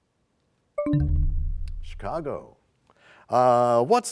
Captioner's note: bell chimes, time expires